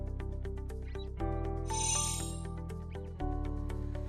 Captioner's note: chiming